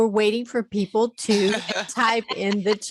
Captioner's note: laughter